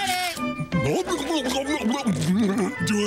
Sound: scarfing

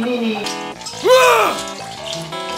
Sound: splashes

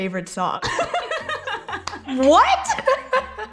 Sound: both laughing

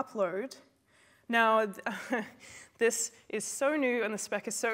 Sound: laughs

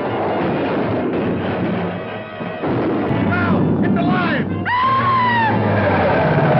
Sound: screams

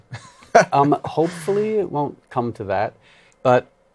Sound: laughs

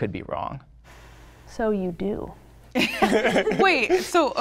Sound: participants laughing

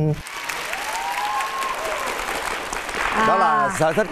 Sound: clapping hands

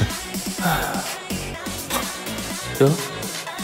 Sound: sighs

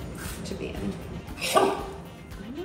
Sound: Gus barking

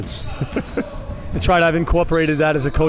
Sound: laughing

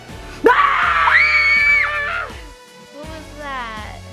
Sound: both scream

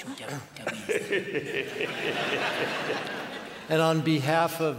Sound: laughter

